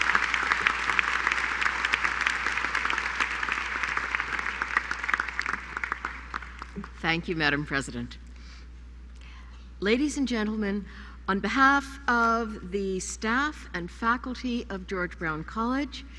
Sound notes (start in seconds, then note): 6.2 applause